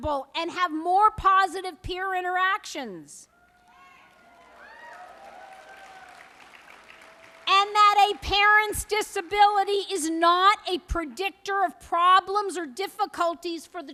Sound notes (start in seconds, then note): 3.5 applause